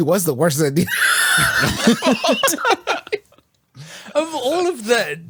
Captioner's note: laughs